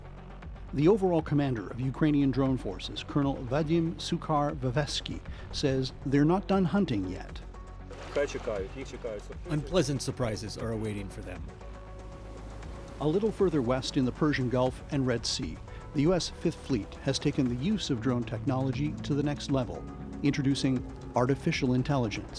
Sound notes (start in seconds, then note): 10.1 speaking alternate language